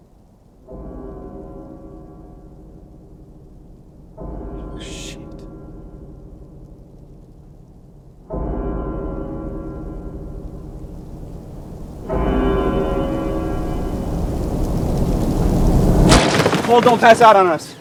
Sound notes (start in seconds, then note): 0.7 clock chime